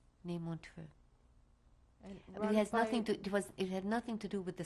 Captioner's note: non-english